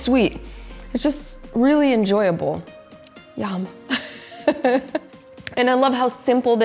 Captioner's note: laughs